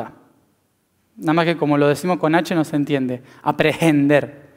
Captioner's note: in Spanish